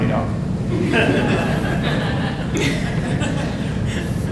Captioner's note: audience laughing